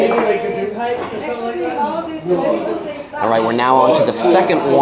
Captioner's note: group chattering